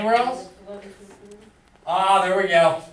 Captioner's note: student talks faintly